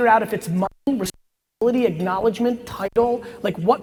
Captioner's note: audio distorting